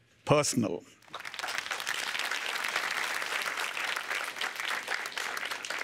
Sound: applause

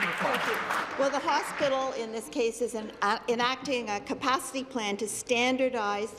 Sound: applause

